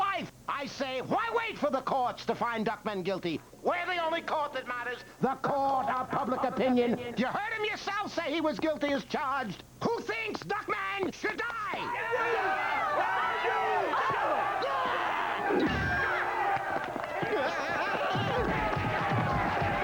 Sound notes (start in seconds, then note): 12.9 all shouting